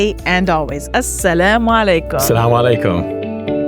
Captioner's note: both speaking non-English language; inspiring music